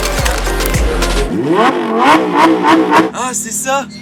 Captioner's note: engine roaring